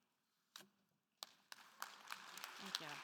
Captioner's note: attendees applauding